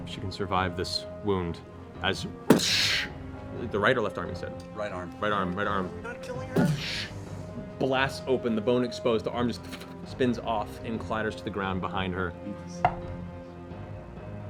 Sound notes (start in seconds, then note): 2.5 gun blast; 6.6 gun blast